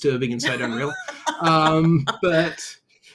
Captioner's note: laughs